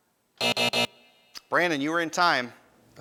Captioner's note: buzzing